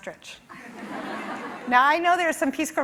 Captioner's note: laughing